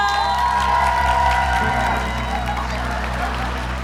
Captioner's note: applause